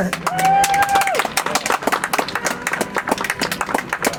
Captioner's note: audience applauds